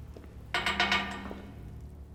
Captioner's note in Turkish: Kapı tıklama sesi